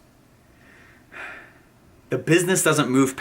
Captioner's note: sighs